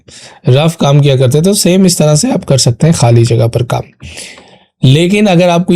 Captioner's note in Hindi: नाक से की जाने वाली आवाज़